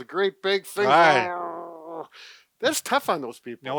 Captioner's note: grunts